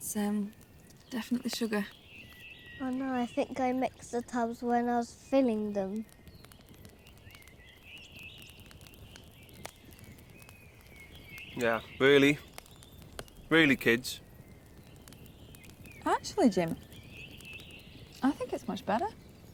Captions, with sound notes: That's um, definitely sugar. - Oh no, I, I think I mixed the tubs when I was filling them. (birds chirping) - Yeah. Really? Really, kids? - Actually, Jim, I think it's much better.